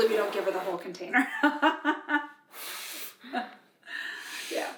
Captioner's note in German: lacht